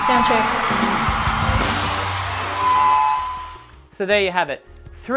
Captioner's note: audience screaming